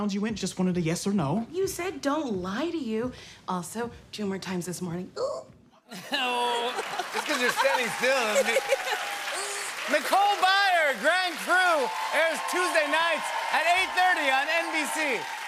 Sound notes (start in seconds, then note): 5.9 laughter